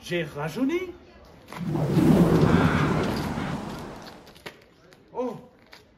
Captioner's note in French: Swoosh sounds